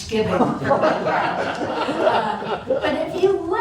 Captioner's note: laughter